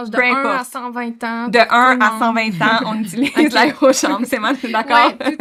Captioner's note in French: Rires